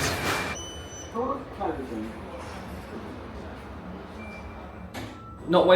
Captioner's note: button beeps